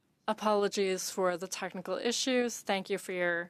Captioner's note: speaking French